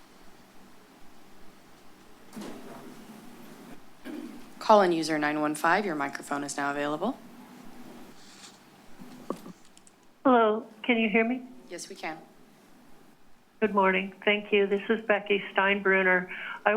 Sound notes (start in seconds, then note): 0.8 pause